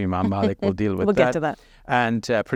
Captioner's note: chuckling